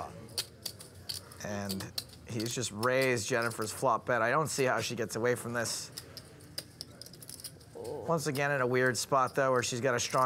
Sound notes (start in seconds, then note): 7.4 exclaiming discontent